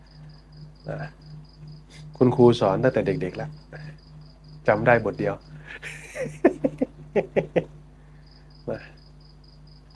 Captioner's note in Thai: เสียงหัวเราะ